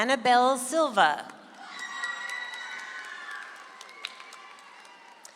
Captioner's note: audience applauds